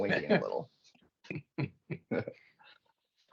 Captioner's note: chuckling